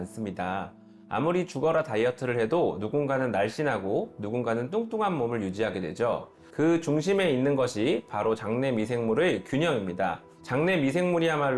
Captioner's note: voiceover